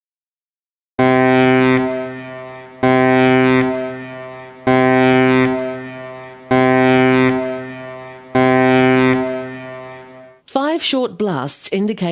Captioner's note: sound of five horn blasts